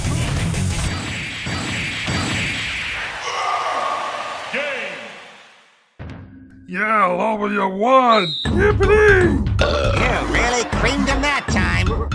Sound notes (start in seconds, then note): 9.1 belches